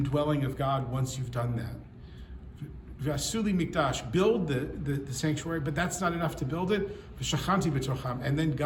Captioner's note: speaks Hebrew